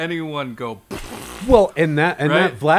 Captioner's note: blows raspberries